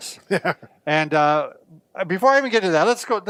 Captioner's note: laughing